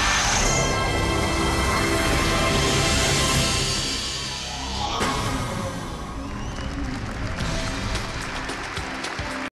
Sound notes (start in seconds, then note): 0.5 cinematic music ends; 5.9 audience applause